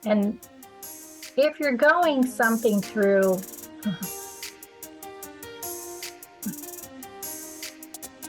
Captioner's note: chuckle